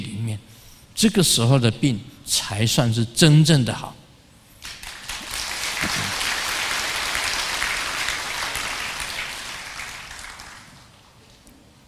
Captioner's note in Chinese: 眾鼓掌